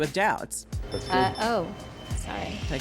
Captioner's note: beeping